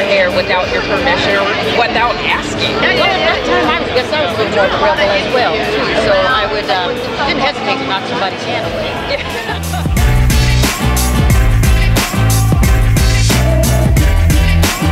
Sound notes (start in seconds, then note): 8.4 laughing; 10.4 upbeat urban music